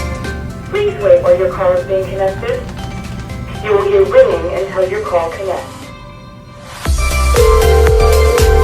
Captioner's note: voice on phone; phone ringing